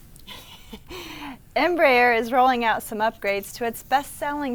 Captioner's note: laughs